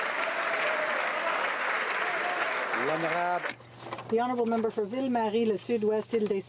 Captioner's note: some Applause